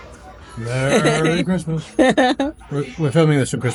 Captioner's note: laughs